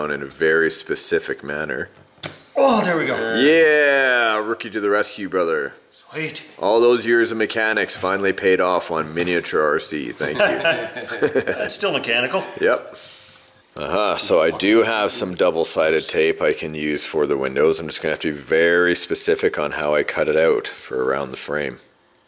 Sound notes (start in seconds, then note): 2.4 pin snaps; 10.2 men laugh